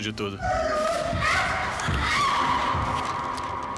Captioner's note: grunting, screaming